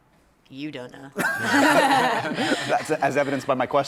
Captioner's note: laughter